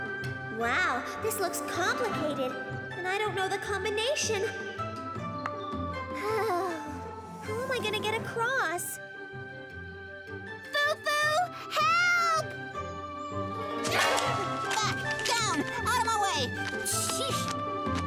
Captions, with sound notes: Wow, this looks complicated. And I don't know the combination...! [ Sighs ] How am I gonna get across? Fu-Fu! Help! - He-he! Back! Down! Outta my way! Shheesh.